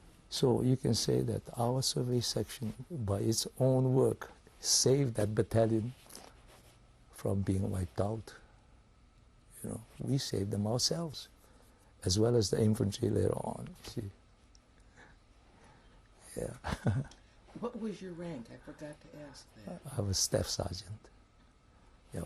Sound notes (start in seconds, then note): 16.6 laughs